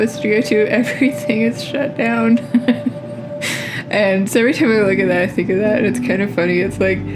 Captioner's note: laugh